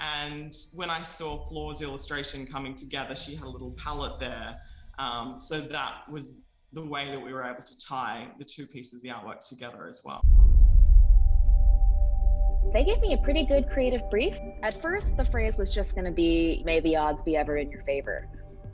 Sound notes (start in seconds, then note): 10.2 scene whooshing; 10.5 pensive music